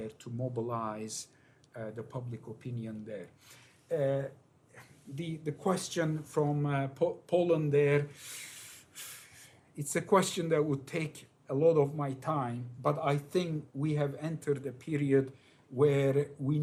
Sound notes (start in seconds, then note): none